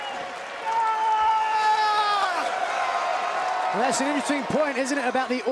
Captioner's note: crowd cheering